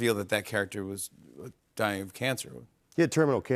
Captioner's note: none